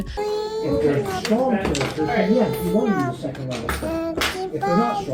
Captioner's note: children chattering